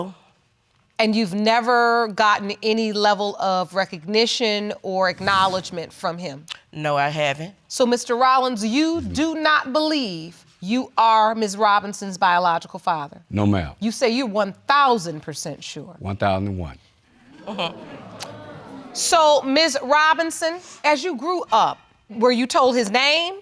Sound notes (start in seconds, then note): 16.9 audience groans